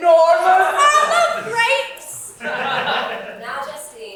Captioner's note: audience laughs